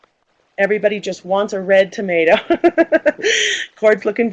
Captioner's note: laughs